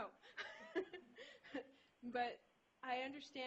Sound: laughter

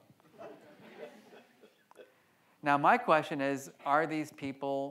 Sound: audience laughs

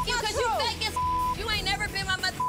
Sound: beep

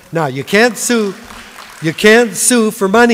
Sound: applause

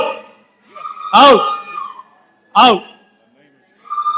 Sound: woman screams

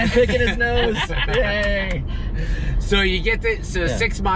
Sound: laughing

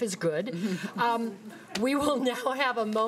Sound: audience chuckling

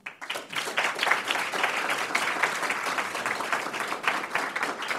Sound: audience clapping

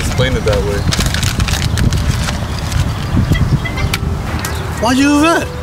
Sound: crumbling paper

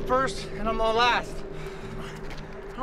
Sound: breathing heavy

